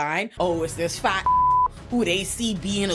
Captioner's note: beep